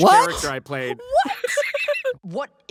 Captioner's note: laughing